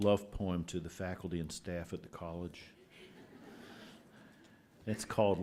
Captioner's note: laughter